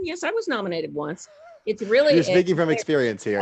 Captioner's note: laughing